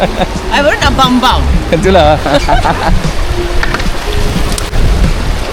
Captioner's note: laugh; laugh